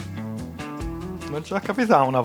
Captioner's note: non-english speech